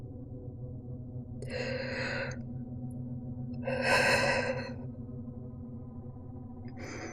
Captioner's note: deep, shaky breath